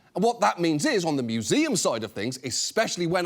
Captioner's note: none